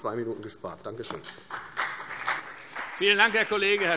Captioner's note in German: Beifall CDU und BÜNDNIS 90/DIE GRÜNEN